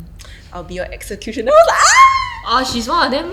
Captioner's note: screaming noises